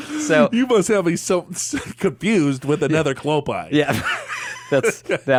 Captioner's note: laughs